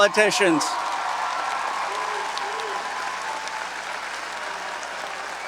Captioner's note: audience cheering and applauding